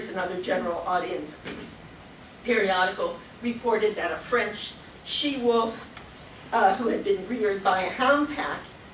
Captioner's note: coughs